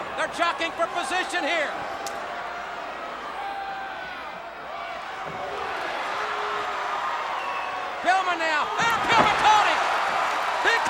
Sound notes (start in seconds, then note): 2.3 blows thudding; 2.3 crowd clamoring; 8.8 body thudding; 10.2 crowd cheering